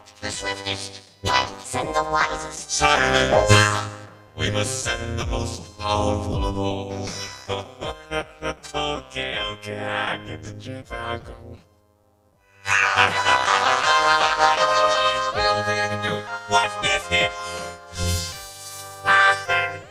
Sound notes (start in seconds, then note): 8.1 laughing; 12.9 all laughing